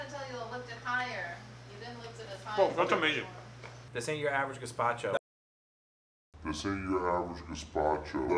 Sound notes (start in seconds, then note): 5.8 slow motion speech